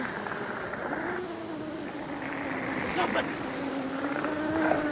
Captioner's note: serpent snarling